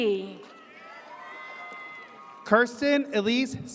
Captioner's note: audience cheers